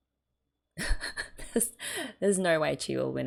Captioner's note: laughs